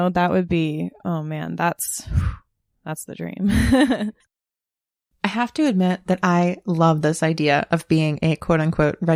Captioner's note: whew